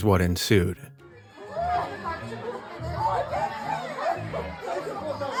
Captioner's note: people clamoring